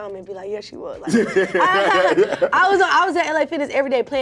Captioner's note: laughter